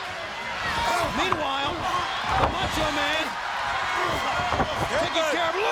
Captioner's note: body thudding